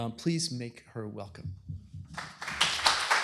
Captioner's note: applause